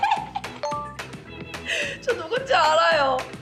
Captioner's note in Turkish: kahkahasını kontrol edemiyor!